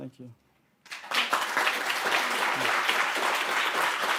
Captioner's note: audience clapping